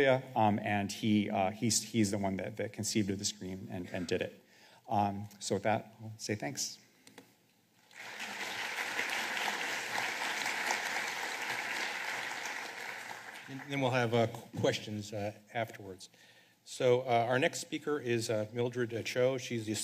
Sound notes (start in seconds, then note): 5.9 applause